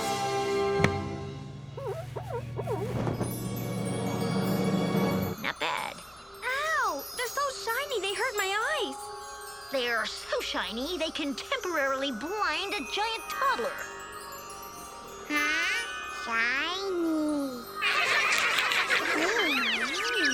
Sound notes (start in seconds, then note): 0.0 dramatic orchestral music; 1.7 shoe squeaks; 17.8 children laugh; 19.3 birds chirp